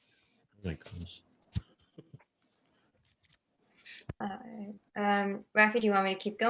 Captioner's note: chuckles